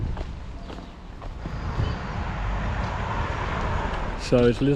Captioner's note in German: Automotor dreht auf